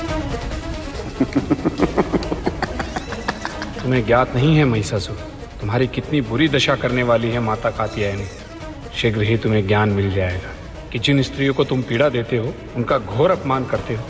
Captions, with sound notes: [laughs] 'You're unaware, Mahishasur' 'that Goddess Katyayani is going to destroy you.' 'Soon, you shall realise.' 'You humiliate women and torture them.'